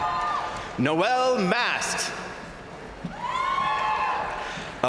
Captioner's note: crowd applauding; crowd cheering; crowd cheering